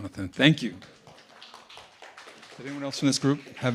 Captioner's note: audience applauding